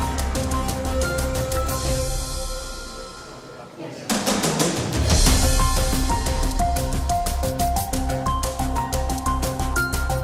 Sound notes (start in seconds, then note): none